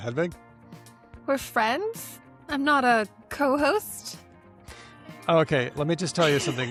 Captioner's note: laughs